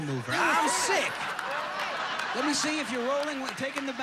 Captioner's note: audience laughing